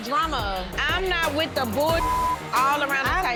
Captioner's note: beep